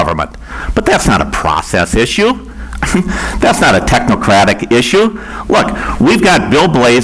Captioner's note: laughs